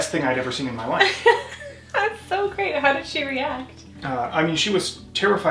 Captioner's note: laughs